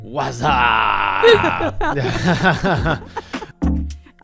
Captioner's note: laughs